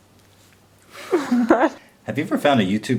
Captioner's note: chuckles